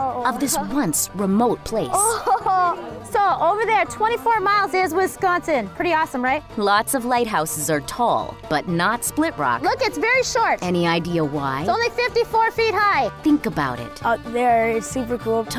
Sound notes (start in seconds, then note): 1.9 child voice; 2.8 female voice; 9.6 female voice; 11.8 female voice; 13.8 child voice